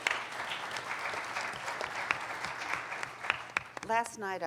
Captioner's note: applauding